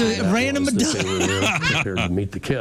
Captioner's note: laughing